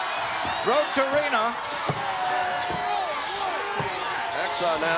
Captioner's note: crowd yelling